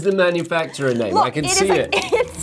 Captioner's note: laughs